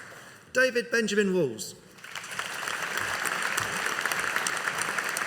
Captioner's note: audience applauding